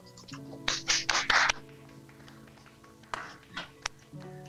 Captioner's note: clapping